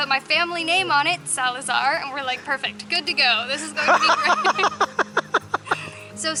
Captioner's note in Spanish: Risas